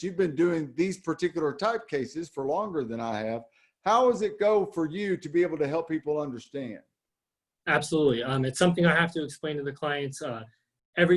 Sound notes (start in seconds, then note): none